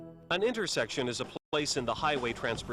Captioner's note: voiceover